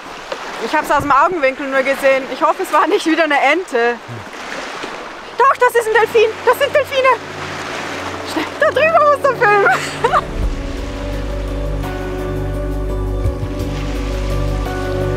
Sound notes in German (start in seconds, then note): 8.3 Lachen